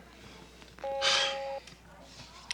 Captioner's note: intercom buzzes